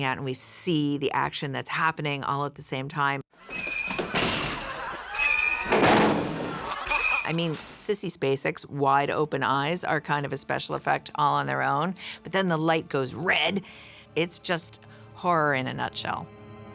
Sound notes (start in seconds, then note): 3.5 doors shut; 3.7 suspenseful music; 5.1 doors shut; 5.1 suspenseful music